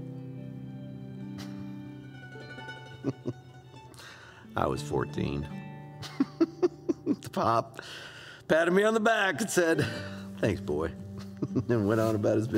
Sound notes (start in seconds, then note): 6.0 laughing